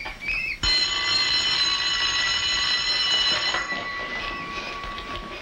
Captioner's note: school bell ringing